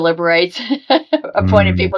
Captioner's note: laughing